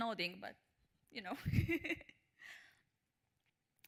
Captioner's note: chuckles